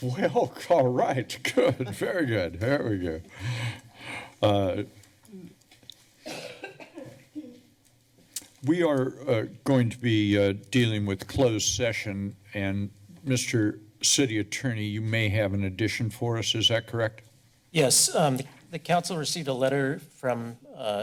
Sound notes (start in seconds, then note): 1.4 chuckling